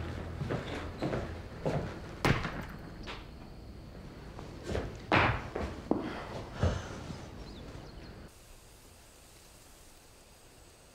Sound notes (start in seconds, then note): 0.0 footsteps approaching; 5.9 Ben sighs; 7.0 birds singing